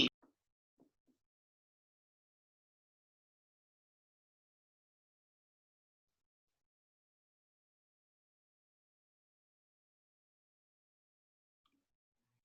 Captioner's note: silence